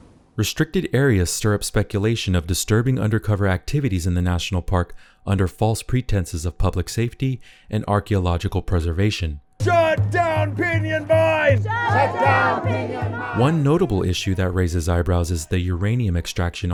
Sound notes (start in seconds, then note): 9.5 group chant